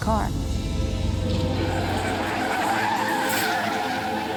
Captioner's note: tires screeching